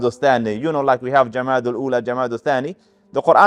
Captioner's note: Arabic